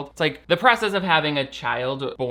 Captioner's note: none